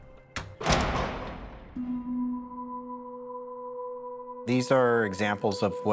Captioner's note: door slamming shut